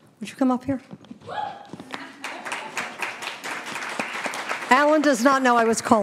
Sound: audience applauding

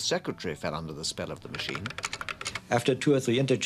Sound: keys clacking

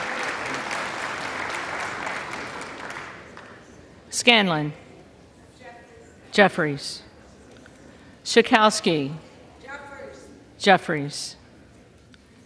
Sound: applause

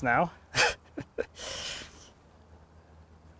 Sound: laughs softly

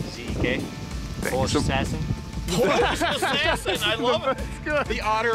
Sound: laughing

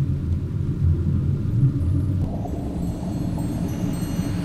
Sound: chimes ringing

